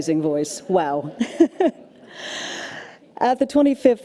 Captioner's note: laughs